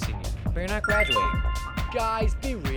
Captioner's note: phone notification